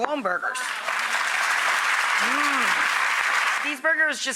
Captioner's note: audience applause